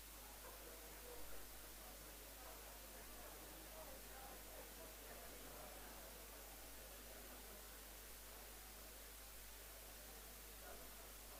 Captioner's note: background chatter